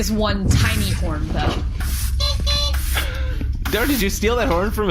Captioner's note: honks